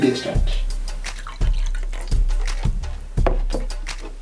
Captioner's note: pouring water; techno music